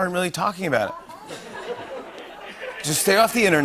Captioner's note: laughter